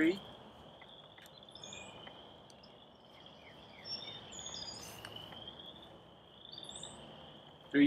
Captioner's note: frog and bird calls in background